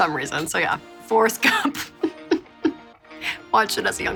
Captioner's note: laughing